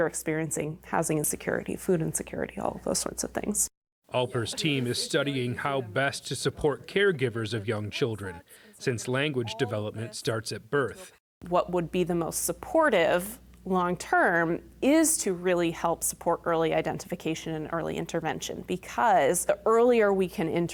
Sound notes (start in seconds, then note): 4.5 voice-over